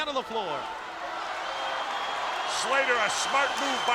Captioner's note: spectators cheering